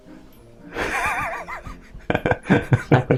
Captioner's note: laughs in Lithuanian